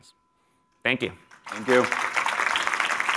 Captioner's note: applause